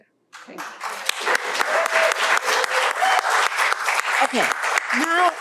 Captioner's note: applause